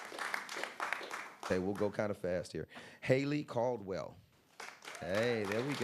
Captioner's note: applause